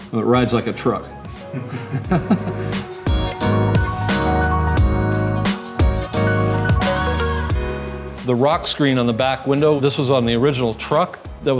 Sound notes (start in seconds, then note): 1.5 laughs; 4.2 lighthearted guitar music